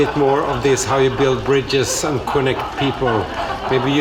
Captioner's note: laughter and scattered applause from audience